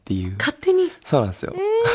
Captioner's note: laughs